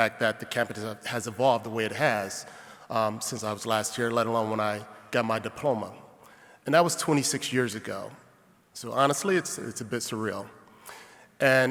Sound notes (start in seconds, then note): none